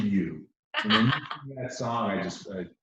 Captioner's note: chuckles